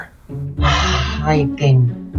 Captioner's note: sighs